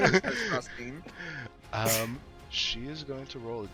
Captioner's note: makes slapping sound